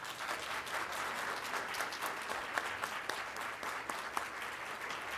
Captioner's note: applause